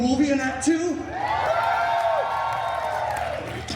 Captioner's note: guests cheering